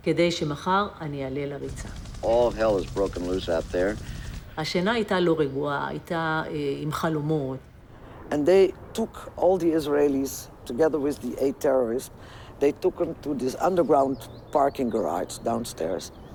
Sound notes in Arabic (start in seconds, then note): 4.5 الصوت المنطوق باللغة العبرية